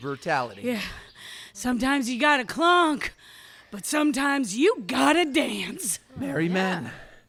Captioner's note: still breathless